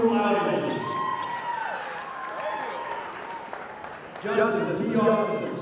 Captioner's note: audience applauding